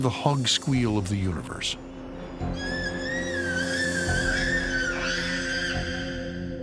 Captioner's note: hog squealing loudly